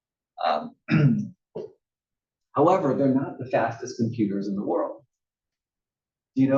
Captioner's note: cough